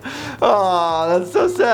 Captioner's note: laughing; Louise screaming slow motion